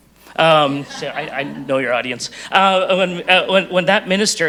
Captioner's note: audience chuckles